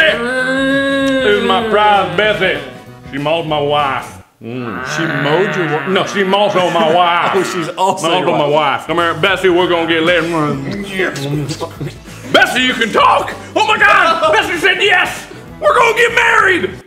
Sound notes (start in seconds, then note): 0.0 tired moose noises